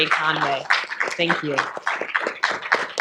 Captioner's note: audience applauding